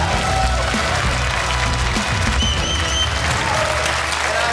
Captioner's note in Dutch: gejuich en applaus